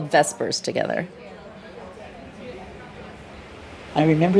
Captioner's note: people chatting